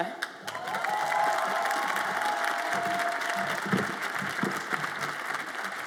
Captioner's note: audience applauds and cheers